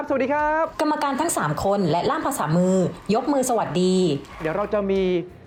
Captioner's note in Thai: เสียงเอฟเฟกต์ปรบมือ